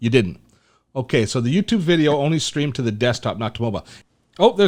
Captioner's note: none